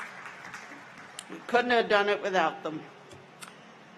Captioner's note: applause